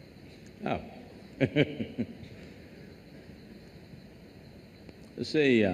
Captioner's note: laughs